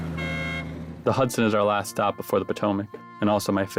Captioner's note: horn honks